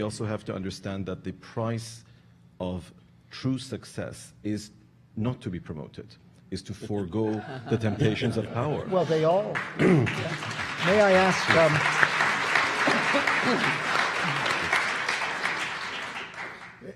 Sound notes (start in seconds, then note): 11.3 audience applauding